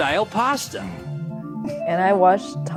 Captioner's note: laughing